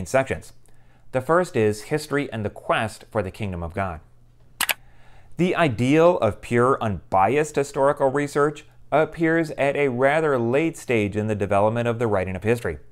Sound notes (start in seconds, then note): 4.6 mouse click